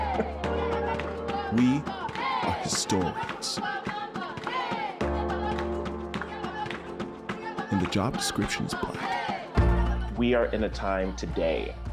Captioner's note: laughter